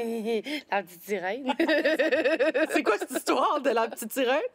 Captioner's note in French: rires